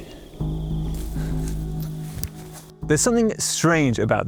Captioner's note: grass rustling